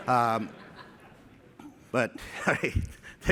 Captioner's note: laughter